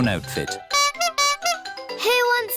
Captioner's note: toots horn